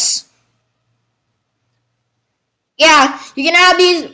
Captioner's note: silence